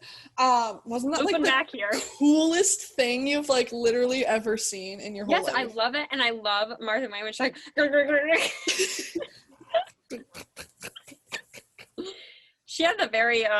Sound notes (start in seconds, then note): 9.6 making bouncing sound